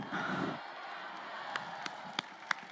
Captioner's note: crowd; crowd applauding